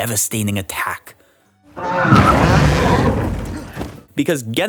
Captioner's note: fart